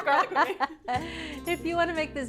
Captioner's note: laughs